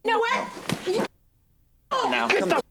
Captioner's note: muted